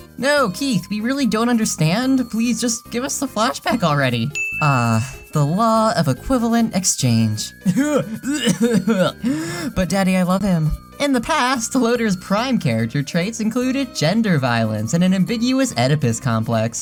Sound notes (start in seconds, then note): 7.6 gagging and coughing